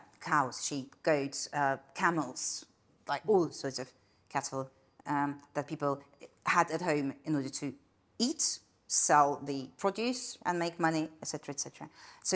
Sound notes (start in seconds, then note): none